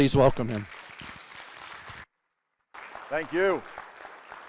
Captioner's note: audience applauding